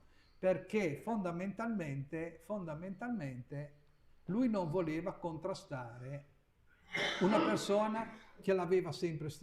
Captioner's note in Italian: sbuffare